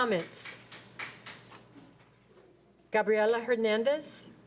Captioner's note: applause